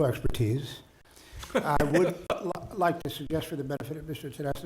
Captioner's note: chuckling